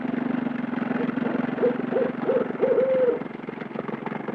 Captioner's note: owl hooting